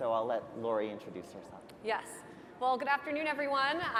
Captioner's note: none